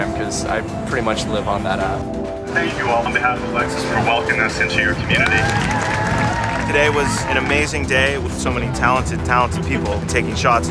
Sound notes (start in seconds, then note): 5.8 cheering and applause